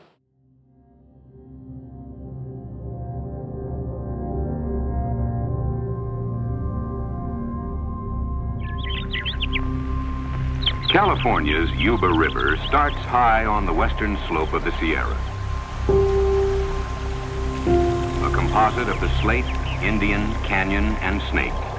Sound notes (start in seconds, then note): 2.4 peaceful instrumental music; 9.5 birds chirping